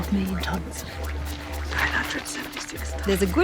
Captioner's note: whispers